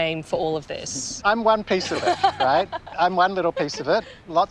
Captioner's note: laughs